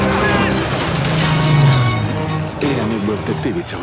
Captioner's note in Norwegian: lyd av maskingevær og fly